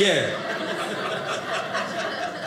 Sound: audience laughing

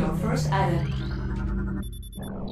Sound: scanning noises

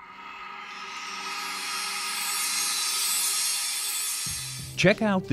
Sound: sound Effects

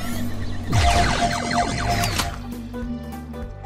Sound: mechanical noise; laser sound

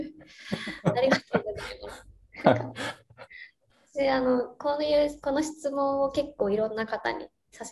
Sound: laugh

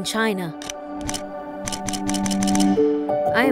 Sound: camera snapping

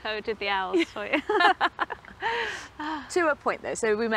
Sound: both laugh

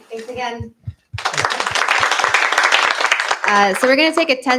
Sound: applause

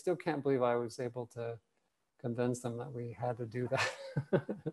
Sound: laughs

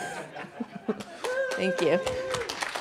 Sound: laughter

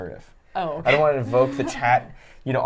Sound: chuckles

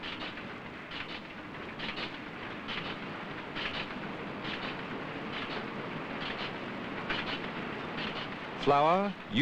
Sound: sound of machinery

